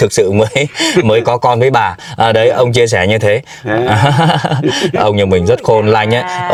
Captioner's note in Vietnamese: tiếng cười